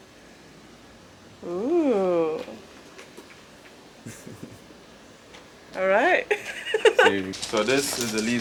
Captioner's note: laughing